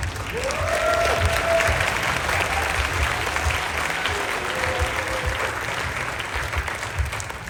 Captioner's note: applause